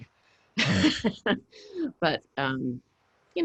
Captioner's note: laughs